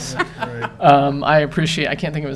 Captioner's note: council laughs